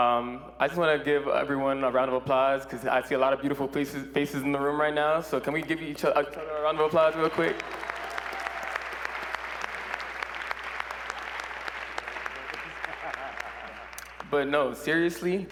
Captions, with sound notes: until this moment right here, but, um, I just want to give everyone a round of applause because I see a lot of beautiful faces in the room right now. So can we give each other a round of applause real quick? [ Applause ]